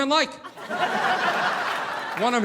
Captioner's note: audience laughing